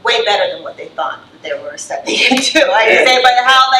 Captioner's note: laughs